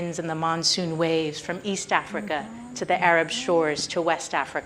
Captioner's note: none